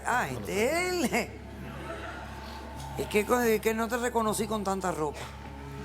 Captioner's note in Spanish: Risas